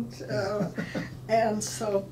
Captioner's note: laughing